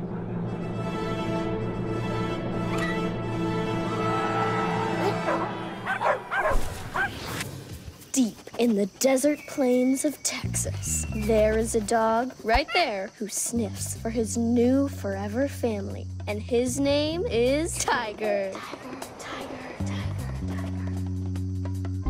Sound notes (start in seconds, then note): 0.2 fanfare; 5.8 dogs barking; 18.3 echoing